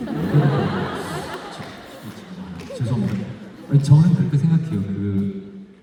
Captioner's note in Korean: 웃음